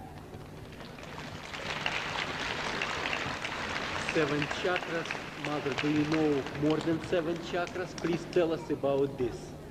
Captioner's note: clapping